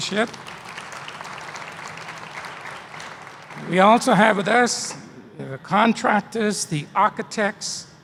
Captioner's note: applause